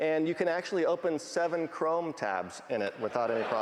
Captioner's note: laughing